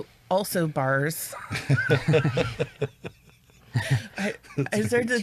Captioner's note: chuckle